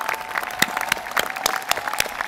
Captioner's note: applause